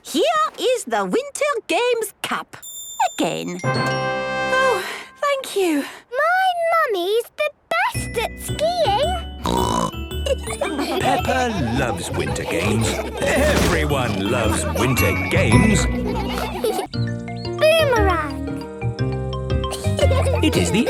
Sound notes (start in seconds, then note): 3.6 triumphant music; 9.4 snorting; 10.0 laughter; 15.9 laughter